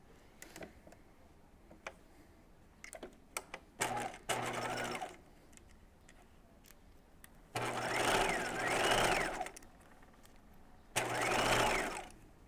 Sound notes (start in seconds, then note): 4.2 sewing machine whirring